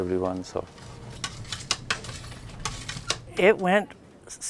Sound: pills being counted

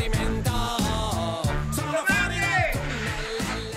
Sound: shouts in italian

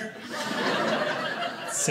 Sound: audience laughing

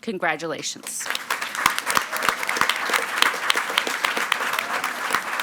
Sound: audience clapping

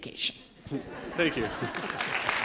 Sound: laughter/applause

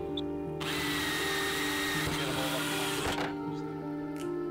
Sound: drill whirring

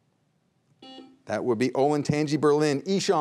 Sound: buzzer beeps once

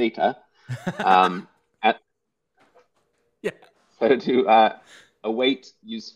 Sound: clicks tongue

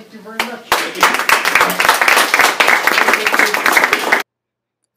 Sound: applause

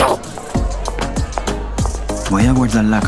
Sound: footsteps departing

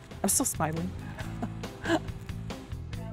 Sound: chuckles

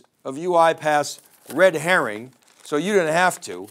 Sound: paper rustling

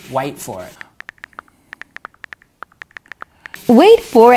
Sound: keypad clicking

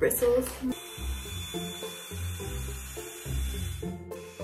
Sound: blow dry sound

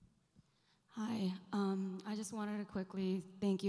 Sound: voiceover

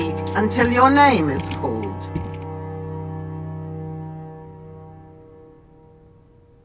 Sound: footsteps plodding

